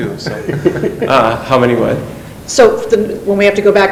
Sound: laughing

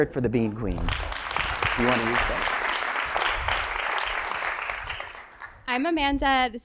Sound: applause

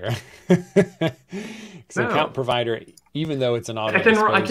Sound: laughs

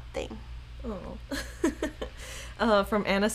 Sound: laughing

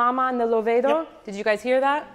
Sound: speaks in foreign language

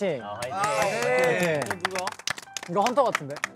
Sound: everyone claps in agreement

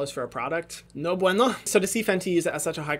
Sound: speaking foreign language

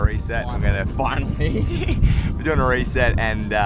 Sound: laughs

